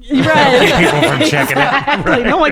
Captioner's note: laughing